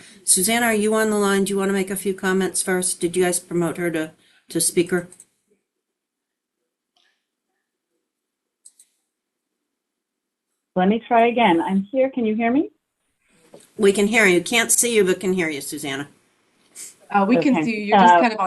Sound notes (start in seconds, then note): 6.4 pause